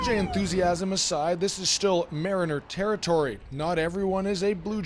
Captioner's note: cheers and Applause